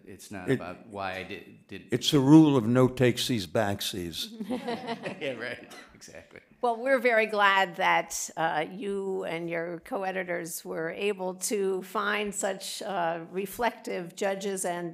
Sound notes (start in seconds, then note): 4.3 laughter